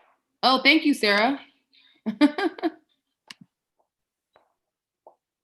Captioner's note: laughs